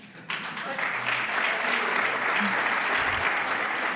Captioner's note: applause